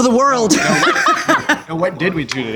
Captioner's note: laughter